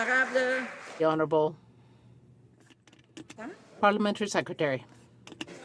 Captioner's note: some Applause